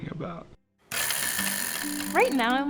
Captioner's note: game board wheel spinning